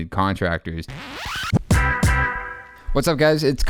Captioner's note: record scratching